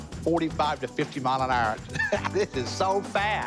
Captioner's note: laughs